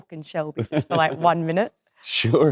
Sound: Cillian laughing

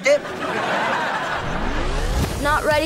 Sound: laughing

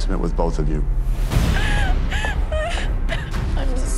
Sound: crying

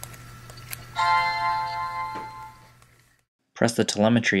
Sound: ding

